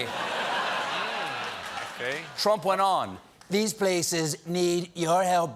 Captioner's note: laughter